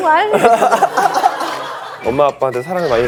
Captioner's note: haha